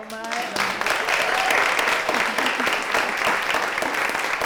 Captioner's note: audience cheering